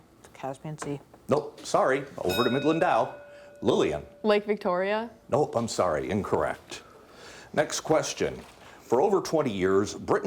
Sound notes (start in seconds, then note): 2.2 bell dinging